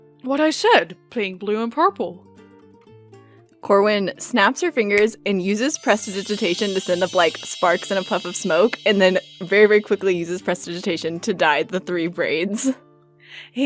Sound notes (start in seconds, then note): 8.6 snap; 8.9 shimmering chime